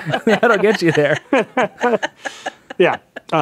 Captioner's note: all laughing